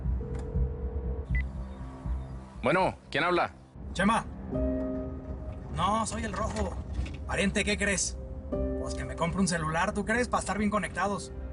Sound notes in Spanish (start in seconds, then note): 1.0 La otra línea timbra